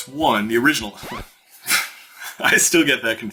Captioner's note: chuckles